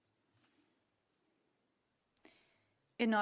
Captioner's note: speaking French